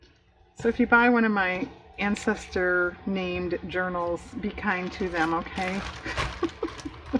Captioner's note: laughs